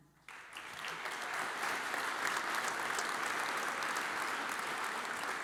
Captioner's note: audience applauds